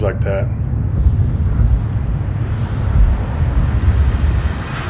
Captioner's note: whooshing